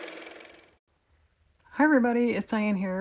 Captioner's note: car motor